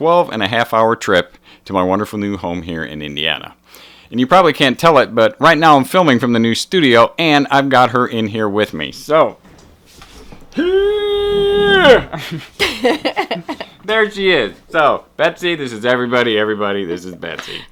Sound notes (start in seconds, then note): 9.1 laughter; 9.4 straining sounds